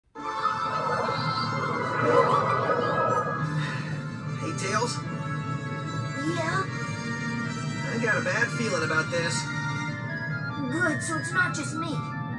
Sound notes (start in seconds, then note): 0.5 Wisps chattering in panic; 1.9 sighs